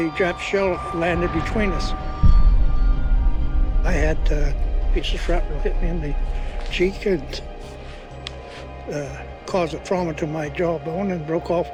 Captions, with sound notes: and a Jap shell landed between us. - [dramatic music] - [muffled explosion] I had a piece of shrapnel hit me in the cheek and... ...uh, caused a trauma to my jawbone